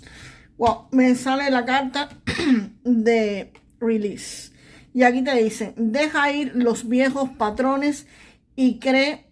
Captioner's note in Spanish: carraspeo